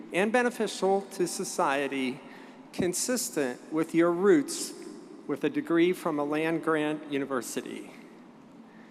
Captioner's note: none